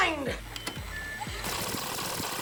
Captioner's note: beep